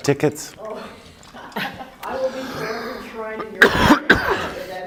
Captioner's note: laughing